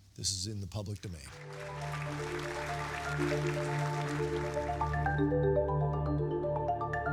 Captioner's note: audience applauding; gentle music